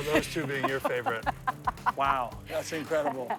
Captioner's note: laughs